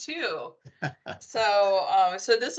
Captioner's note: laughing